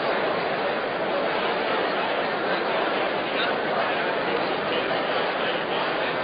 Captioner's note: general conversation